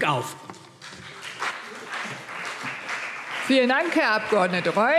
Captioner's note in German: Beifall CDU und BÜNDNIS 90/DIE GRÜNEN